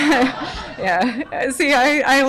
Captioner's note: audience laughter